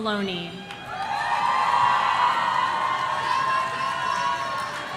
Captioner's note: audience cheering